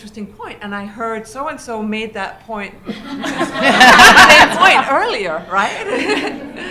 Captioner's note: laughter